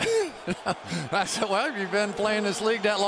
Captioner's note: laughs